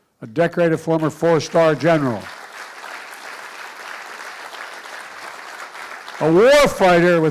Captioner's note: applause